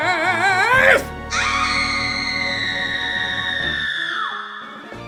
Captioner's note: screams